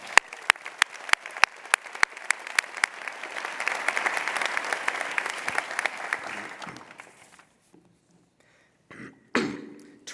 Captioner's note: applause